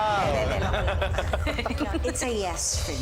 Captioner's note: judges laughing